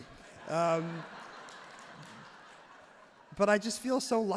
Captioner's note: everyone laughs and claps genuinely